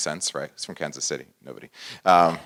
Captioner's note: laugh